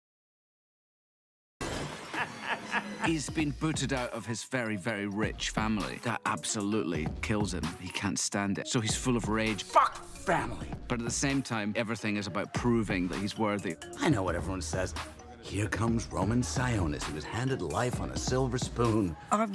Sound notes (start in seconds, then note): 2.1 laughing